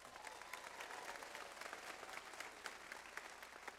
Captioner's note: audience applauds